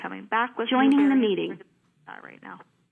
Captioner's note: voice-over